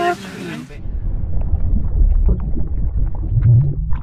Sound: water trickling

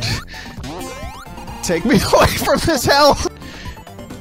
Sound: laughing

